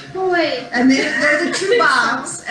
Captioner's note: laughter